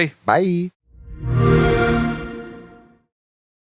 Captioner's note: xbox sound